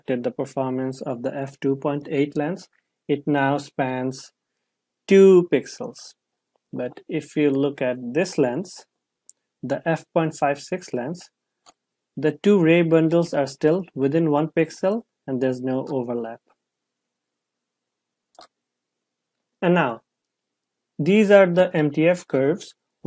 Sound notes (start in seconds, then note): 18.3 computer mouse clicks